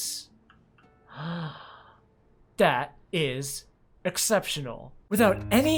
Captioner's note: gasp